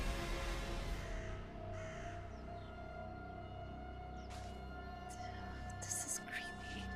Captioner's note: deep tense music; birds caw